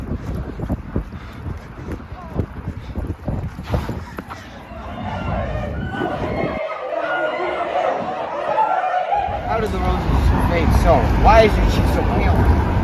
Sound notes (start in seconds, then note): 4.5 crowd shouting